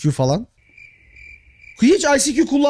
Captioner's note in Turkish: Islık sesi